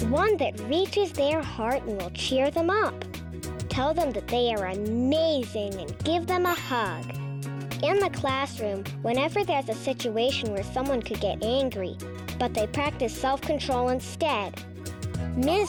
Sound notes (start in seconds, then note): 6.5 check mark rings